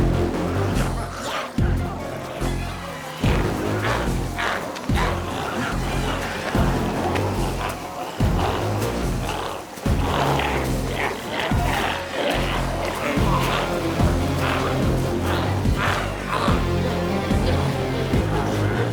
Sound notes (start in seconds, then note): 1.4 glowzies growling; 4.6 intense music continues; 13.2 glowzies growling continues; 13.2 intense music continues